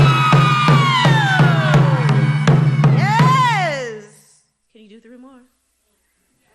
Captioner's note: screaming